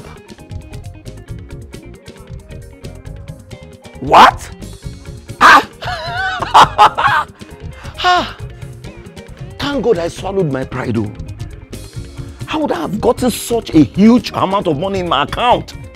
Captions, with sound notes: What? (laughing) Thank GodI swallowed my pride, How would I have gotten such a huge amount of money in my account.